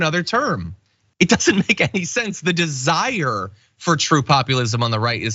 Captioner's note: laugh